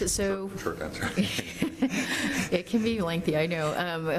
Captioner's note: chuckling